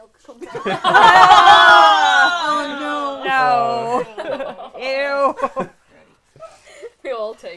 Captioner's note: disgusted cries